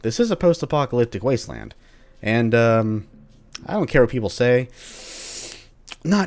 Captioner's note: sharp inhale